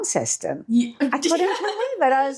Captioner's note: laughing